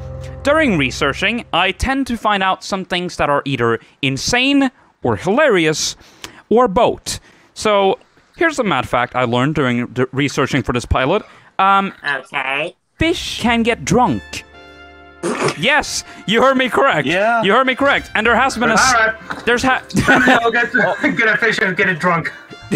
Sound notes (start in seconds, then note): 15.1 spit laugh